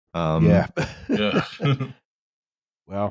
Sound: laughs

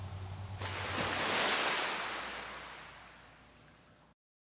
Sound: waves Crashing

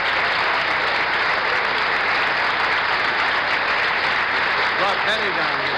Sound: applause continues

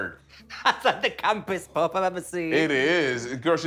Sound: laughing

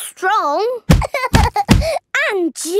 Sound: banging

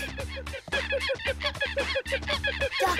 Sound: monkey cries

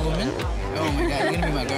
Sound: laughs

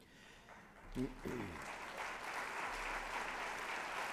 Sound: applause

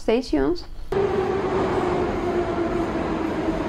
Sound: metro sounds

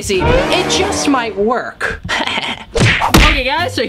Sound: laughs

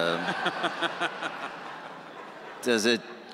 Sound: audience laughing

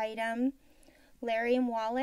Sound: silence

